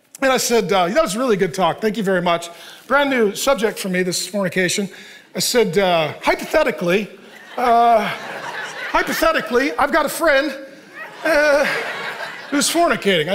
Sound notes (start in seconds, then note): 7.0 congregation laughing